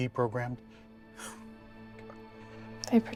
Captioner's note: laughs